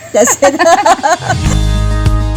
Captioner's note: both laughs